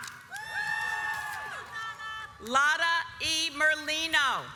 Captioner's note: audience cheers